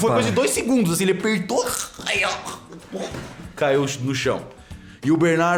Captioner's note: chokes